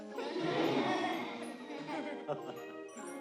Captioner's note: laughter